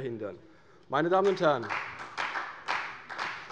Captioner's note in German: Beifall bei der CDU